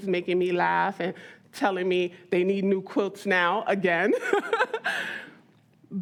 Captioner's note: laughs